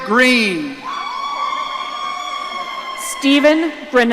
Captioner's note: audience cheering